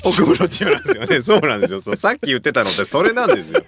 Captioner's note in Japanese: 笑い